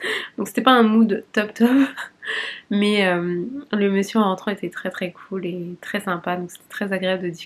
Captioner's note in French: rires